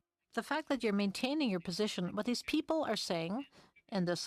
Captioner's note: speaking in french